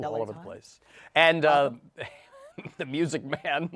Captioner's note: laughs